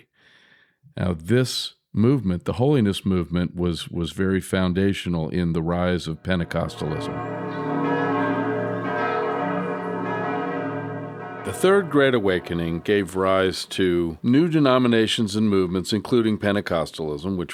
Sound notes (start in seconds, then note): 6.2 church bells